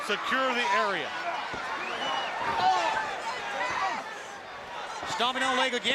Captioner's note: crowd chatter